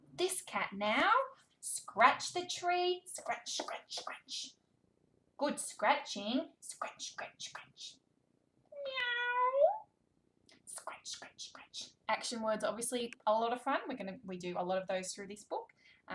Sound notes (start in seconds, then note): 8.8 meowing